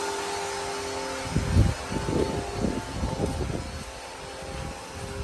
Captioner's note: wind blowing